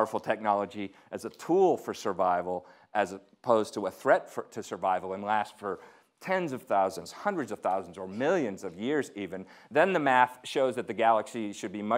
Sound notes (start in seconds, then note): none